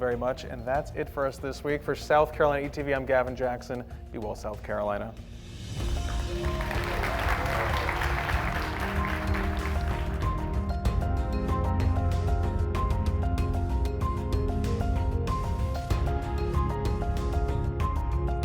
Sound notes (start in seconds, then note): 5.9 applause